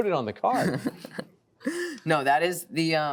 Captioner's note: chuckling